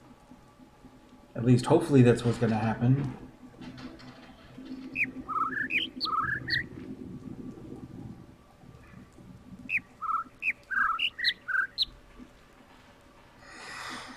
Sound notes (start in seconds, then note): 4.7 overlapping birds chirping, ˩ ˧ ˥ ˩ ˥